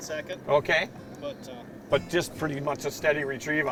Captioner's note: voiceover